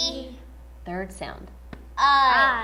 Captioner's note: tap